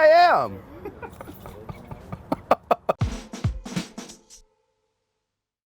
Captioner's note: laughter